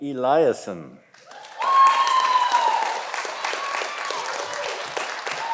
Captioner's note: audience applauding